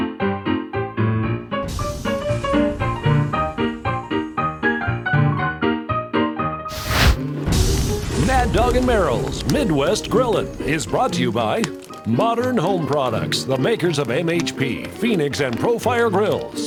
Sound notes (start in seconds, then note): 0.0 upbeat piano tunes; 6.7 fire swoosh; 7.8 sizzling